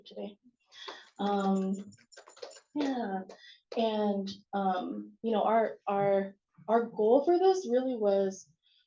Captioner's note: audience clapping